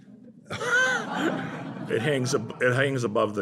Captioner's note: laughter